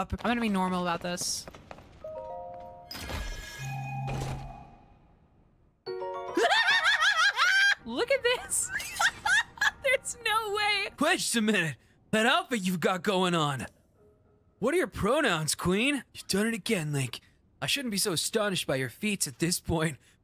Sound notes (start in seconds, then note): 6.3 abnormal Yelling; 8.5 laughter